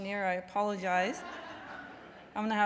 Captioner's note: laughs; laughter